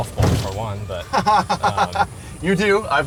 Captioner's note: laughs